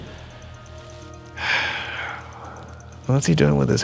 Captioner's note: sighs